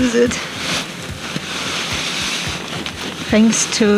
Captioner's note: rustling